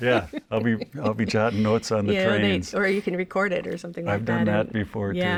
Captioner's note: laughs